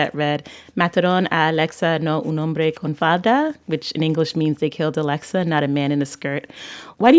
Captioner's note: speaking Spanish